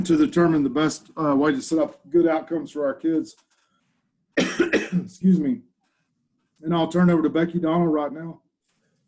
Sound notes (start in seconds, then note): 0.1 coughs; 4.4 coughs